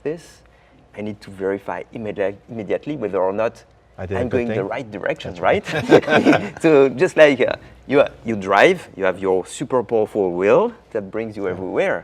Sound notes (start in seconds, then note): 5.6 laughing